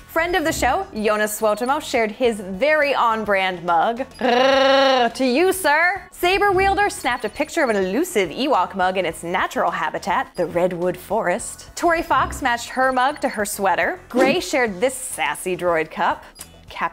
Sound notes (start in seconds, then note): 4.2 mimics chewbacca grunt